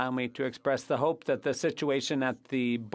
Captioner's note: speaking French